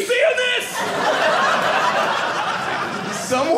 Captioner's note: audience laughing